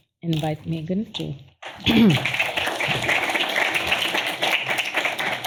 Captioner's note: applause